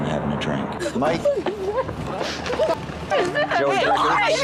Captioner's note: crying